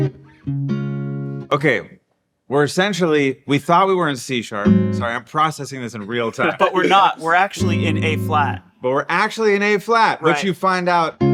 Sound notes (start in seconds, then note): 0.0 light guitar music; 6.3 laughing